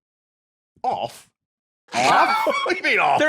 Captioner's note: laughs